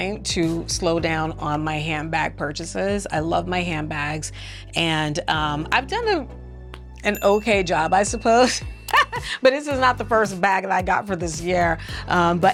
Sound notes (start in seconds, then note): 7.0 bell ringing; 8.9 laughing